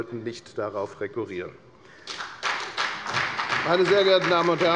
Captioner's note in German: Beifall bei der FDP und bei Abgeordneten der SPD